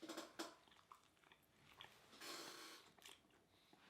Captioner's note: both chew